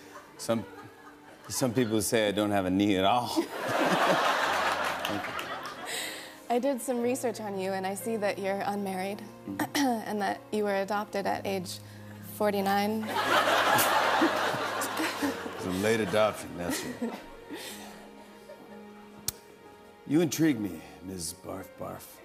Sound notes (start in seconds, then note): 0.0 chuckles; 3.2 laughter; 9.1 clears throat; 13.1 laughter